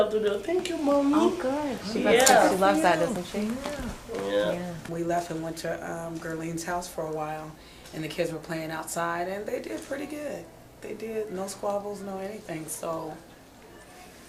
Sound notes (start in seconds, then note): 1.4 voiceover